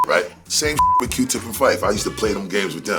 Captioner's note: beep